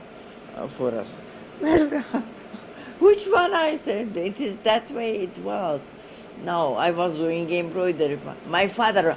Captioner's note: she laughs